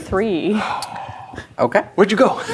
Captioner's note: gasps